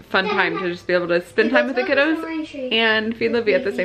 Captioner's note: children's voices